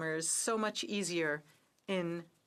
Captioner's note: speaking French